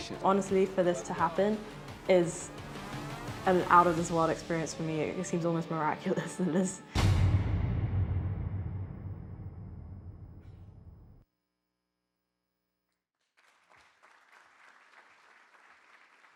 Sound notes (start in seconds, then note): 7.0 title thunders, echoes; 13.2 audience claps